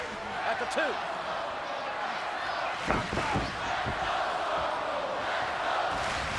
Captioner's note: audience chanting and clapping